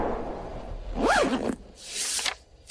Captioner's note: record scratch